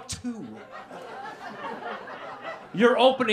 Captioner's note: laughter